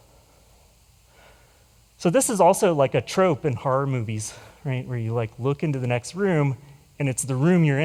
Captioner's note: none